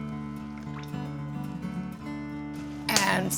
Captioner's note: oil splashing